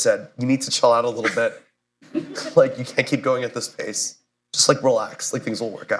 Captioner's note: laughter